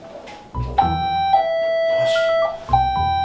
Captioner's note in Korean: 초인종 소리